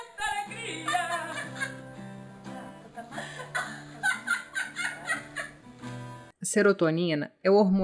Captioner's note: laughs